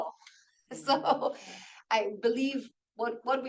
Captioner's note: laughs